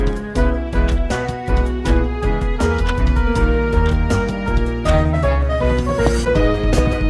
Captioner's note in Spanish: Sonido de reloj grande